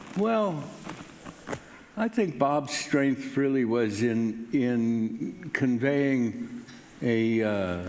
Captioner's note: none